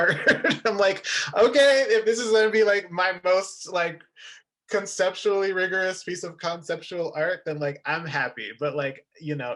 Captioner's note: laughin